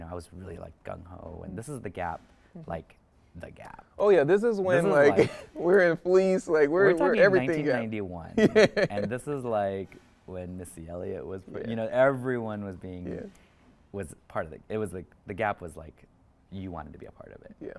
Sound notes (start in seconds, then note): 8.3 chuckles